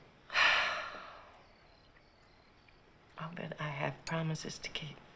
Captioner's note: sighs